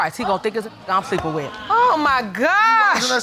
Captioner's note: audience exclaiming